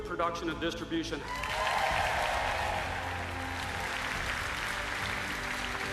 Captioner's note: cheers and applauses